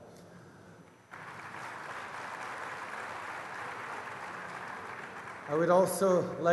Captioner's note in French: Applaudissements